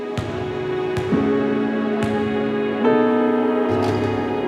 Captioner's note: basketball bouncing on floor